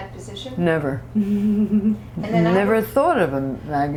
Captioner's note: laughter